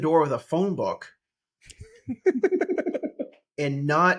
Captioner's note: laughing